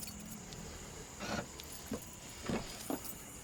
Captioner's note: sound of Trunk Opening